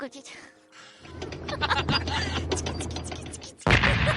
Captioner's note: 부릉부릉